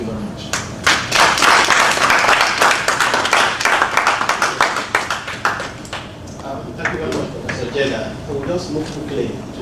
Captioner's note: applause